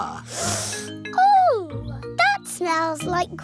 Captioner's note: sniffs